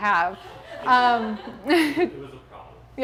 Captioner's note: audience chortling